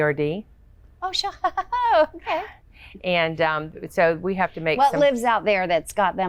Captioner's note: laughs